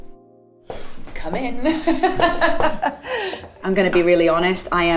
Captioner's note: Karen laughs